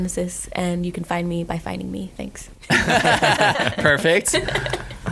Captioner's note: laughing